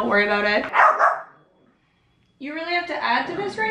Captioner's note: barking